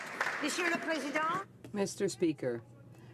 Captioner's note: some Applause